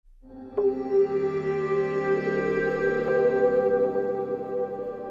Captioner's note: soft humming tone